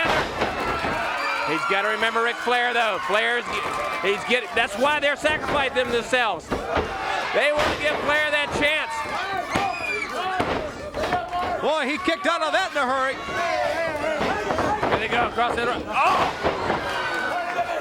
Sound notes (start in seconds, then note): 10.9 crowd chatter; 14.0 crowd chatter